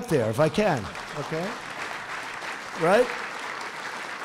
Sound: applause

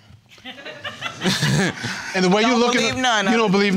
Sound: audience laughs

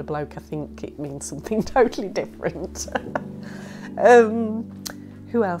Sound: laughs

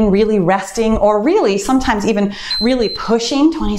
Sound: timer beeps

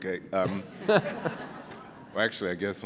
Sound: laughing

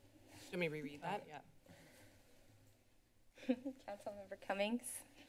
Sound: laughs

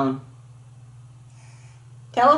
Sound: hissing sound

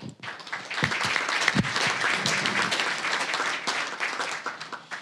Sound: applause

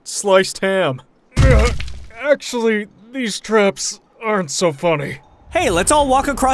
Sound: groans

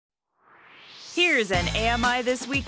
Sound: swoosh

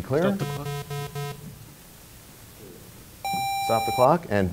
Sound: bell rings, time expires

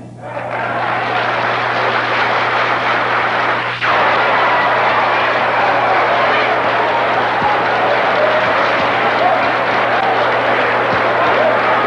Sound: thunderous applause

